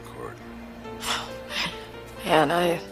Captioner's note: Lisa scoffs